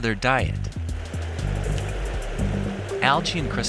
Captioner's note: wings flapping